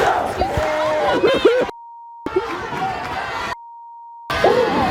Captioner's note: cries